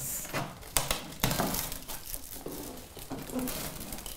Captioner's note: reluctant crackling and popping